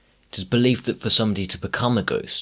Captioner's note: none